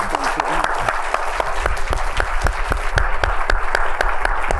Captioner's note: applause